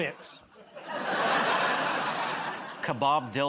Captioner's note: laughter